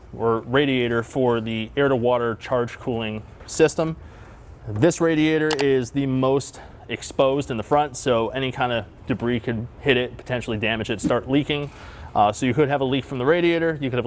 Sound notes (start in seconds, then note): 6.0 picture clicks